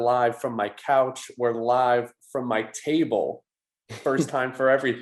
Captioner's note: chuckles